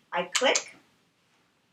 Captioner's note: click